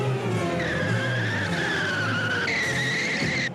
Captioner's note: wheels creaking